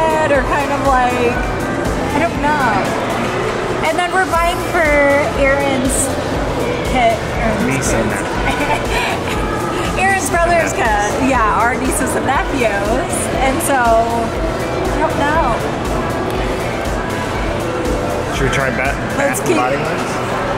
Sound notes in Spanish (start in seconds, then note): 8.0 se ríe; 14.6 optimista música